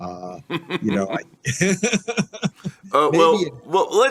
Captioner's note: laughing